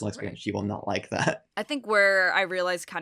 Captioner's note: chuckles